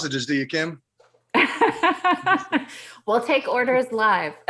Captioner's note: laughs